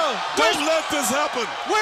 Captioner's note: crowd cheering